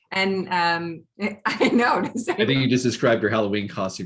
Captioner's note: chuckling